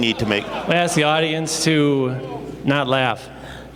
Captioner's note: laughter